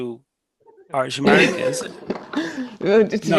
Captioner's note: laughs